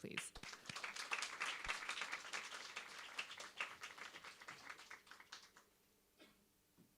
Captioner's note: audience applauds